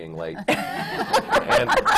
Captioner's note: laughter